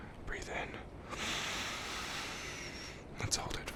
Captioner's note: inhale deeply